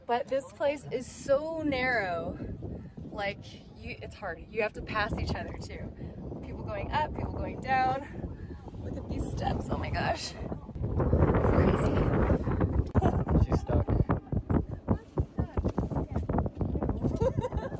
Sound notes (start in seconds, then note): 10.6 wind whooshing; 17.0 laughs